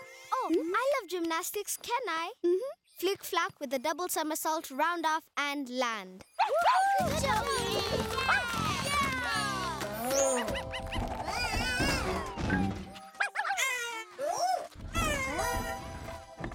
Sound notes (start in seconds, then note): 6.4 Lulu barking; 11.2 bongolala screeaming; 13.2 Lulu barking